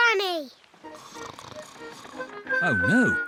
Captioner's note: snores